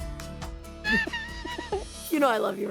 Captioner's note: both laughing